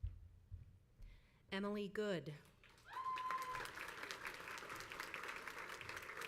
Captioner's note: crowd applauds